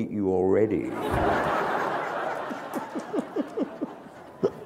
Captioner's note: laughter